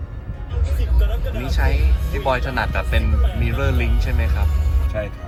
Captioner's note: over Android Auto